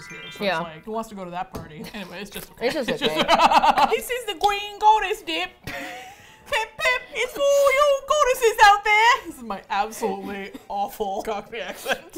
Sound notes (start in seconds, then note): 2.8 laughs; 4.1 attempting Cockney accent; 6.0 laughs; 7.0 attempting Cockney accent; 11.5 both laugh